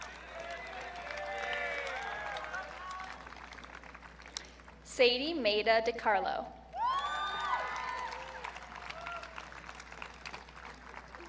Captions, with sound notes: (audience cheering) Sadie Maida DiCarlo. (audience cheering)